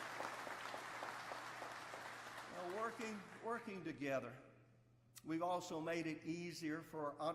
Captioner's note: applause